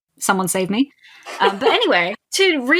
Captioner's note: laughs